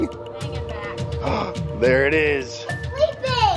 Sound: gasping

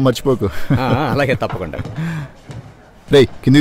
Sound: laughs

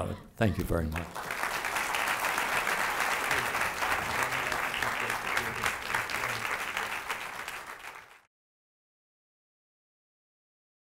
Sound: applause

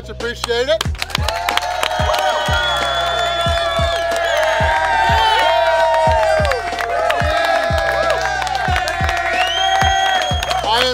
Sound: cheering & Clapping

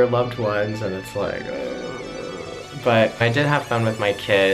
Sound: groans

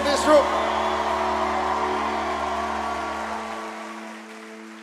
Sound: audience applauding

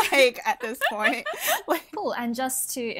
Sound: hosts laugh

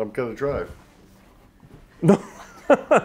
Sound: laughter

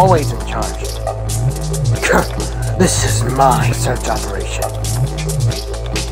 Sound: scoffs

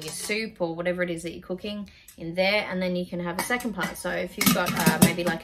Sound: pots clank

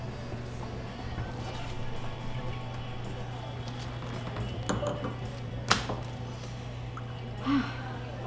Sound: bar noise and chatter, wine being poured; glasses clink

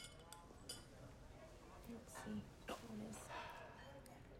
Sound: quietly

